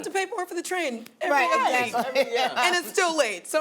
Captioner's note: laughs